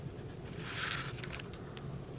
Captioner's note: paper rustling